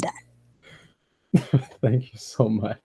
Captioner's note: laughs